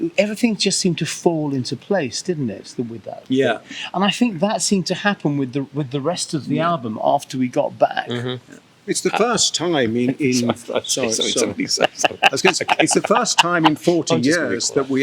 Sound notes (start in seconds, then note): 10.0 laughing